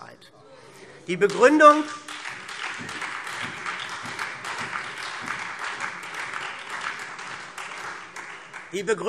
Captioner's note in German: Beifall SPD und Freie Demokraten